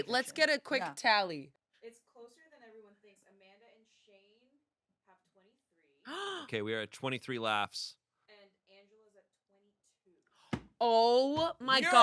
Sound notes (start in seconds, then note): 6.1 gasps